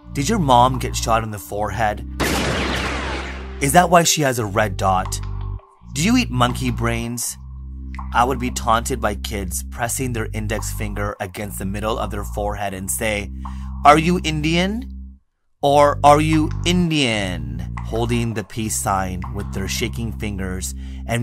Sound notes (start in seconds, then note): 2.2 gun shooting